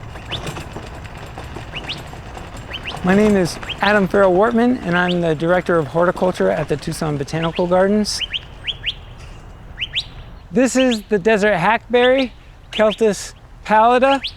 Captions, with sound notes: [Birds chirping] My name is Adam Farrell-Wortman, and I'm the Director of Horticulture at the Tucson Botanical Gardens. [Birds chirping] This is the desert hackberry, Celtis Pallida.